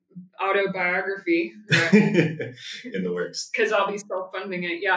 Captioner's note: laughs